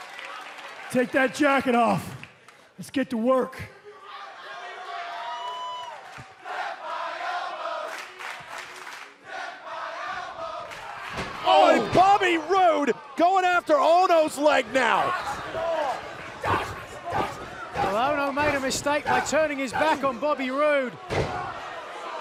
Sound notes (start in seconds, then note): 0.0 cheers and applause; 6.2 fans chanting